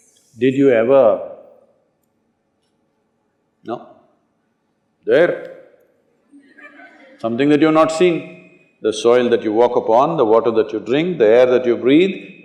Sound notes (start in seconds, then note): 6.4 laughter